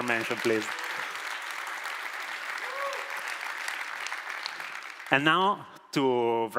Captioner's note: applause